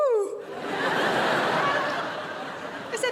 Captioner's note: crowd laughs